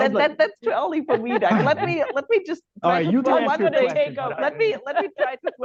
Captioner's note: laughter; laughs